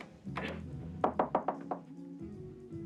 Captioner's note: knocking on door